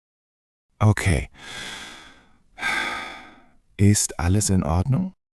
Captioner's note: breathes in deeply